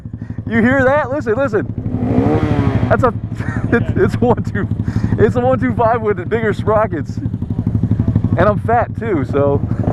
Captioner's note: revs motor